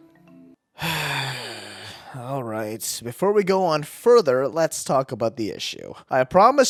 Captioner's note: sigh